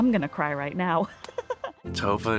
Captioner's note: laughing